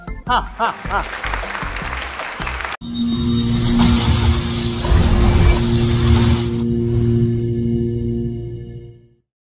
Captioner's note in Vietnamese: Vỗ tay